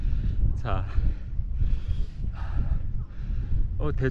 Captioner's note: oops, out of breath